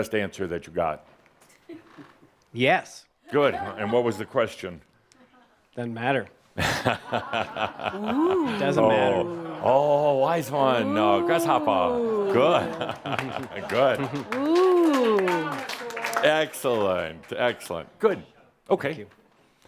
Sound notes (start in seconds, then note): 6.6 chuckles; 13.4 chuckles and a couple of claps in audience